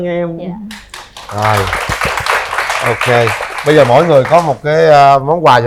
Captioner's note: applause